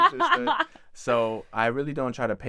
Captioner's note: laughs